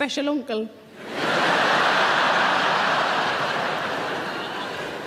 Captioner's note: audience laughing